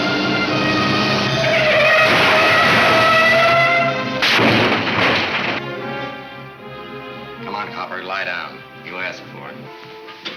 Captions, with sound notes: (car crashes) - Come on copper, lie down. You asked for it.